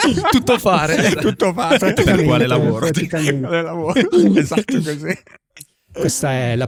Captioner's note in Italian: laughter